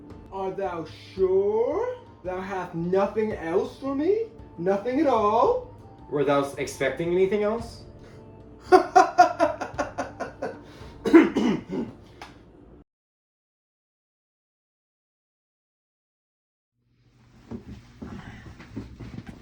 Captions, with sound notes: Are thou sure thou have nothing else for me? Nothing at all? Were thou expecting anything else? (laughing)